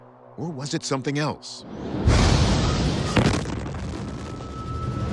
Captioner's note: explosion booming